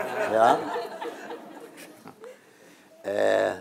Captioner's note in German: Publikum lacht